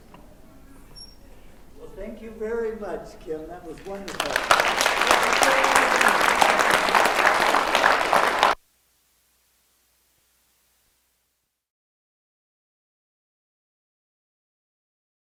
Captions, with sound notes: Well, thank you very much, Kim. That was wonderful. [APPLAUSE]